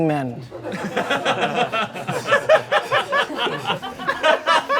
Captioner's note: audience laughing